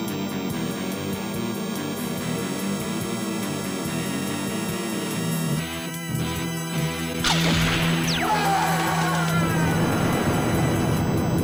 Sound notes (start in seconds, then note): 7.2 laser zapping; 7.8 screams